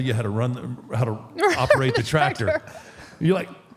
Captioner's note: laughs